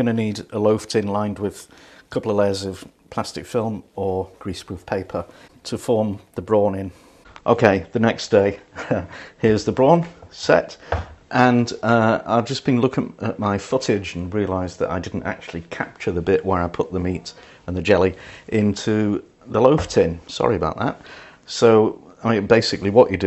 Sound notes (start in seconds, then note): 8.7 laughs